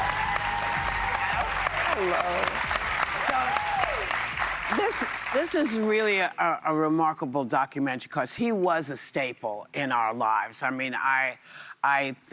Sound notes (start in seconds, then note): 0.0 cheers and applause